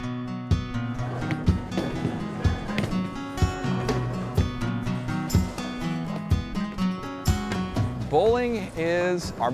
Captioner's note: bowling sounds